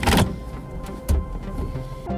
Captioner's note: car engine starting; gear shifting